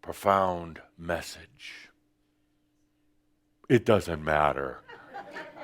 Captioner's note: some chuckles